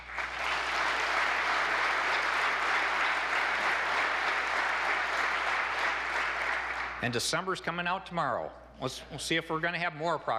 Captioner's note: applause